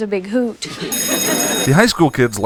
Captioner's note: laughing class